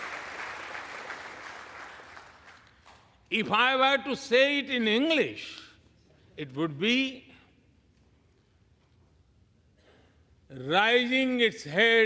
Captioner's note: applause